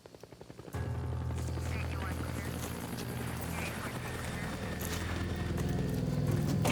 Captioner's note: helicopter thrumming; police radio chattering